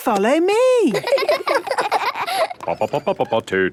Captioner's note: children laughing; sing-song voice